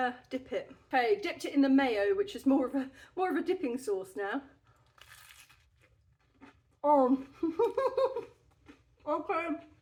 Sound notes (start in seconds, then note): 4.8 crunch; 7.6 laughing